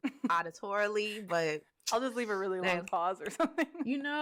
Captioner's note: laughs